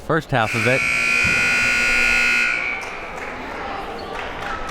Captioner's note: buzzer rings